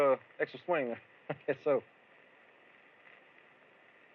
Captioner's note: chuckles